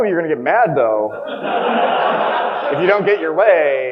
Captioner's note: audience laughing